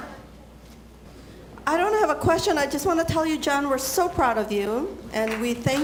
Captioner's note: applause